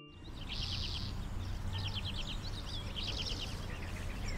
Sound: birds chirping

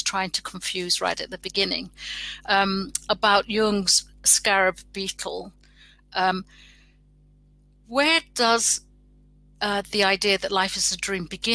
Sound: erm

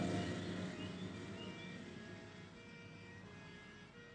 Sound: tyres squealing

